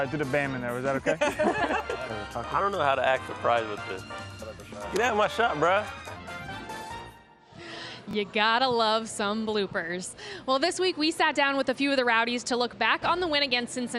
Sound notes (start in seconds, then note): 1.0 laughter